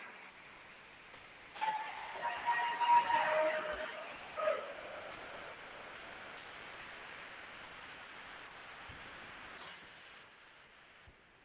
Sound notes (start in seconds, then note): 1.6 attendees cheering; 2.2 attendees applauding